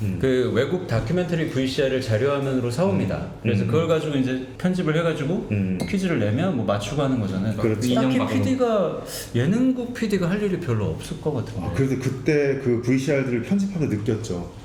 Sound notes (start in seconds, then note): none